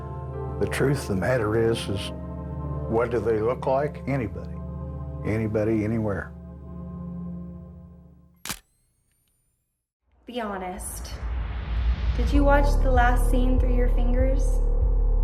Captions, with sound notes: AND THE TRUTH OF THE MATTER IS, IS WHAT DO THEY LOOK LIKE? ANYBODY. ANYBODY, ANYWHERE. (camera shutter click)